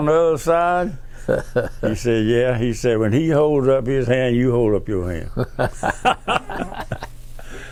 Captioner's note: laughs; laughs